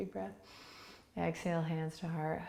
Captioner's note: inhaling